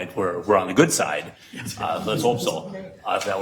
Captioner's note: regents chuckle